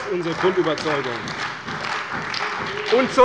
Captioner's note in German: Beifall bei der CDU